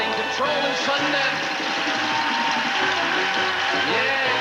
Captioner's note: audience applauding